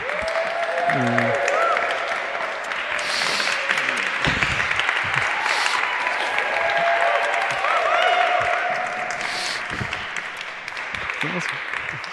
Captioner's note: applause